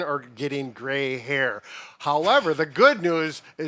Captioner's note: chuckling